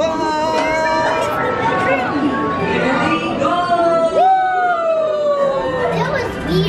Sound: crowd cheering

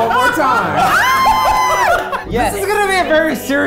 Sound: everyone laughing

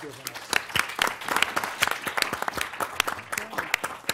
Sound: applause

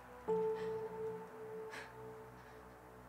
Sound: gentle music; crying

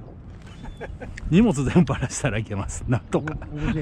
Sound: laughs

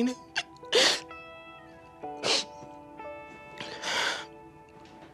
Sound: crying

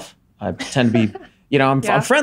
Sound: laughs

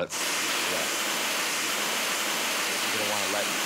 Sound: air hissing

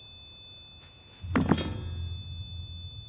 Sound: clatter, clang

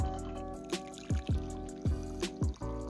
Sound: coffee splashes into mug

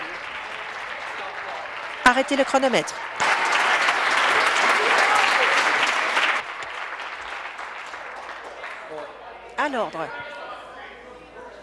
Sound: applause

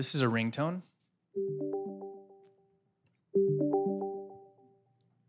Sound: ringtone

